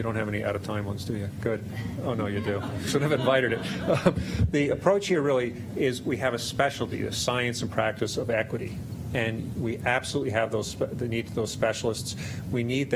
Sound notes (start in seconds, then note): 2.2 laughter